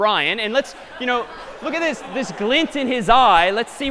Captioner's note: laughter